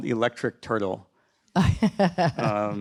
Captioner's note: host laughing